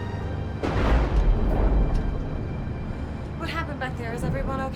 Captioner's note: dramatic music; thunder rumbles